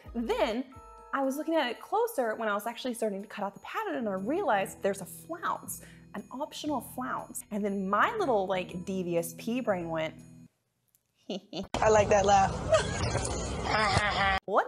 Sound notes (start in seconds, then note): 11.3 laughing creepily; 12.7 Justin Bieber mimicking laughing